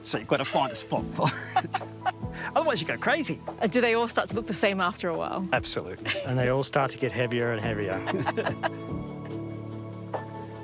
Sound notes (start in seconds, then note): 1.0 both laugh; 7.9 all laugh